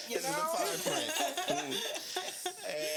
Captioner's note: laughing